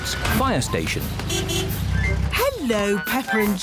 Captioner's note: horn honks